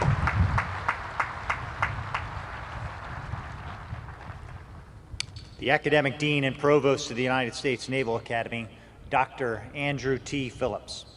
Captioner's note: cheering; applause